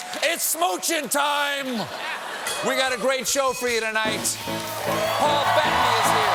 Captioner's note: laughter